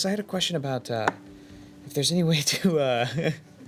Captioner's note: laughing